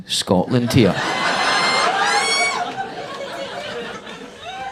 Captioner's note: audience laughing